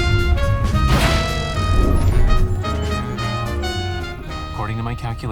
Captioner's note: system beeping